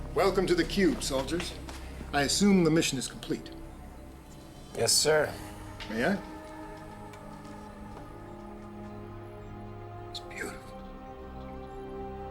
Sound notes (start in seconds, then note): none